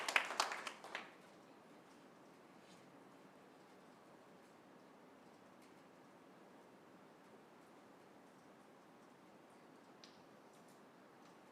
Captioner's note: applause; silence